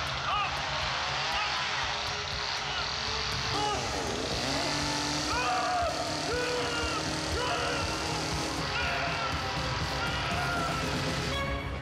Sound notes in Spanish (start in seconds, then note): 2.6 Gritos